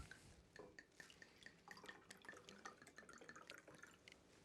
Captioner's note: wine sloshing